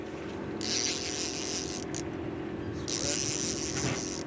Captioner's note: reel cranking